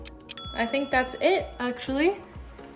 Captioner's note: ding